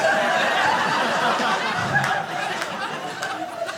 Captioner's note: audience laughing